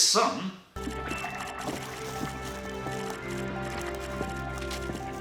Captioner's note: flush